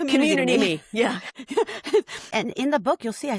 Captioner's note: chuckles